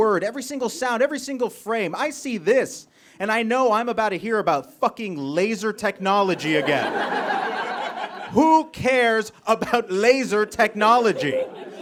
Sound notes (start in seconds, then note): 6.3 audience laughs